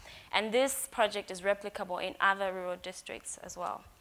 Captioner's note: none